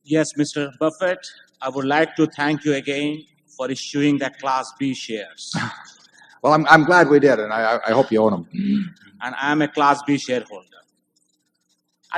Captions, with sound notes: AUDIENCE MEMBER Yes, Mr. Buffett, I would like to thank you again for issuing the Class B shares. WARREN BUFFETT (Laughs) Well, I’m glad we did, and I hope you own them. AUDIENCE MEMBER I am a class B shareholder.